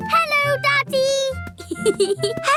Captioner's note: snorts; giggling